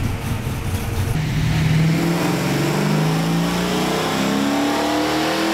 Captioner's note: engine revving